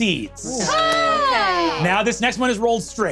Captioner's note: cheers